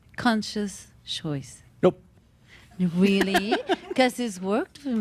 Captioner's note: giggles